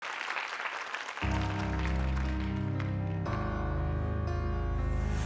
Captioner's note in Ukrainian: оплески